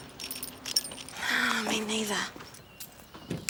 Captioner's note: sighs